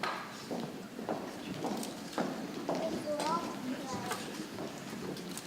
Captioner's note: people chattering softly